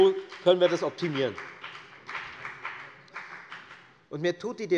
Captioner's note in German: Beifall bei der FDP